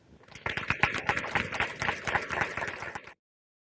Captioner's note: audience applauds